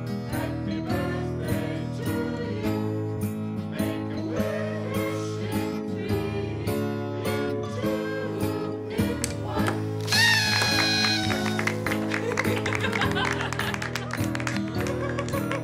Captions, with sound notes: Happy Birthday to you make a wish in three in two in one (party horn, laughter, applause)